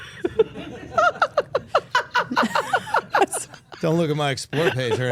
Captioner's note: everyone laughing